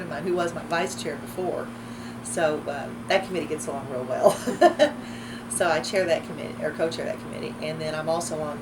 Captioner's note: laughs